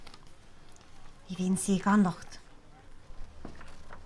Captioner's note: in irish